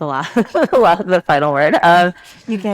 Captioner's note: participants laugh